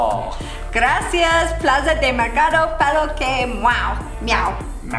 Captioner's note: speaking foreign language